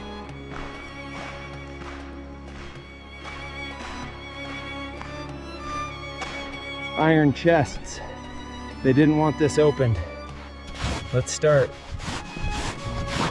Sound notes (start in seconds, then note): 0.0 instrumental music plays; 5.9 footsteps crunch